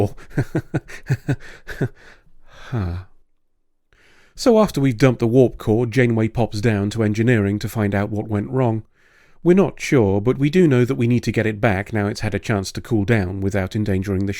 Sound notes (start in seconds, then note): 0.0 strained laughing; 1.4 sigh of resignation